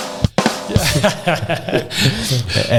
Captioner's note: laughing